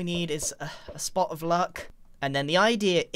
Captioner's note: sighs